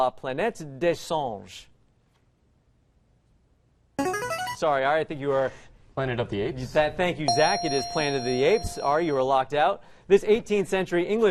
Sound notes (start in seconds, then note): 3.1 player buzzer; 7.3 ding